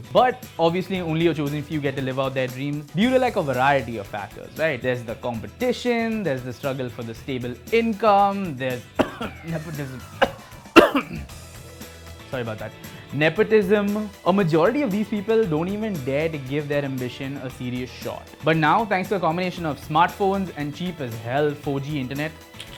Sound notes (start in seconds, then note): 8.9 cough